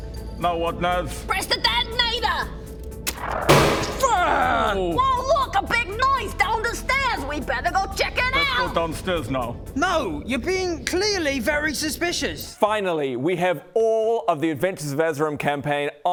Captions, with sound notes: now what Naz? Press the detonator! *bang!* - Waaagh! - Oooh! Whoa look a big noise down the stairs. We better go check it out! Let's go downstairs now. No! You're being clearly very suspicious. Finally!! We have all of the Adventures of Azerim campaign